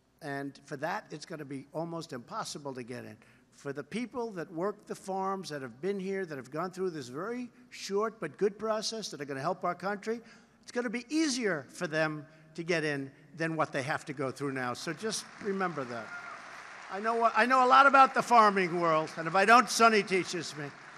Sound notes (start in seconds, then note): 14.8 applause